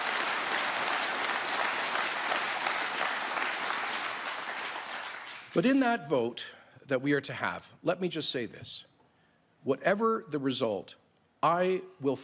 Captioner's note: applause